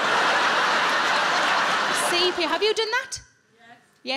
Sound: audience laughing

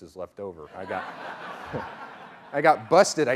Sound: laughing

